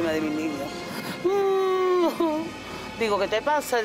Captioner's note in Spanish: Sollozos